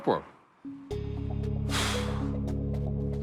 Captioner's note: exhales